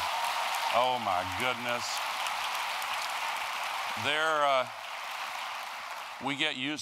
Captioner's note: applause; applause